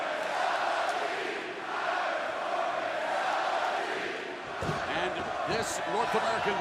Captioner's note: crowd cheering